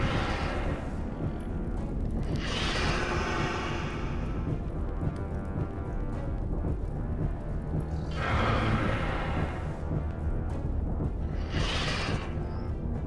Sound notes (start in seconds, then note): 0.0 dramatic music; 0.3 dinosaur growling; 2.7 dramatic music; 8.2 dinosaur growling; 10.9 dramatic music